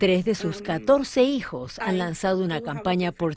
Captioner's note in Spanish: habla en ingles